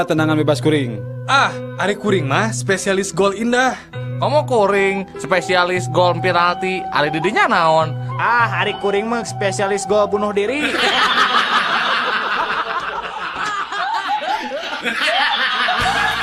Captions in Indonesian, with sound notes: tendangan bebas kuring. Ah ari kuring mah spesialis gol indah. Komo kuring spesialis gol penalti. Ari di dinya naon? Ah ari kuring mah spesialis gol bunuh diri. [tertawa]